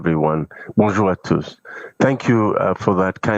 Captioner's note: speaking French